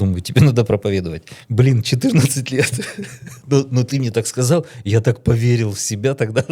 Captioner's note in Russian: смех